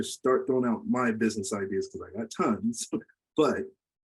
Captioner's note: laughs